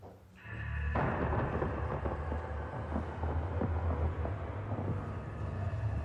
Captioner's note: thunder rumbling over eerie ambient music